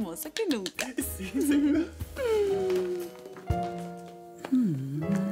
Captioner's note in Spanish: Aplausos